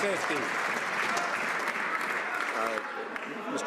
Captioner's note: some Applause